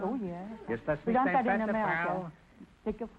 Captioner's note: speaking German; singing in German